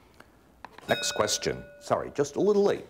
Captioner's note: bell rings